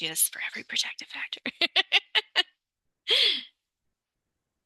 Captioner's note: laughs